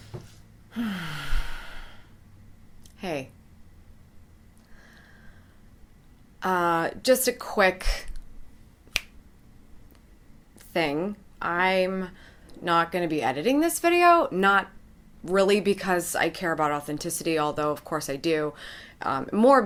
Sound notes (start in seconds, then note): 0.7 exhaling; 8.9 snaps